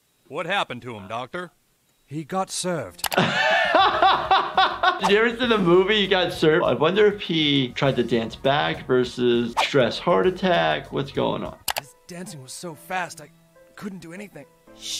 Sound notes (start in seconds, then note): 3.1 laughs